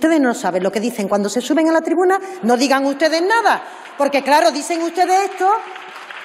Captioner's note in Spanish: aplausos